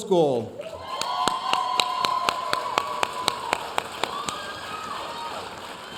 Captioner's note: audience cheering and applauding